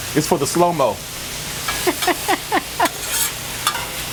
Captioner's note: laughs